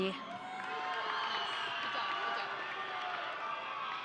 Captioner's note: audience cheering